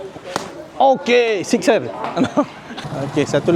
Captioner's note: laugh